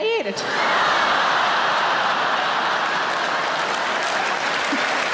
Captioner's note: audience laughs and applaudes